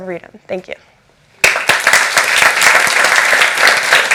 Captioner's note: applause